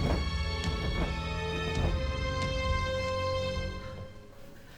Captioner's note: feathers flap